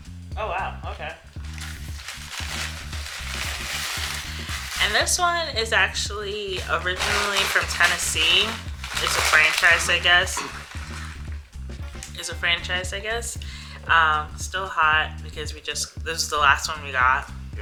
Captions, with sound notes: Okay. - Oh wow, okay. (bag rustling) And this one is actually originally from Tennessee, it's a franchise I guess. Still hot because we just, this was the last one we got.